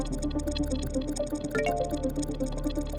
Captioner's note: computer chimes